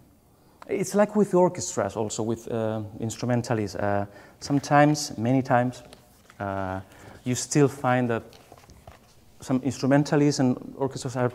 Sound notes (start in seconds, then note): none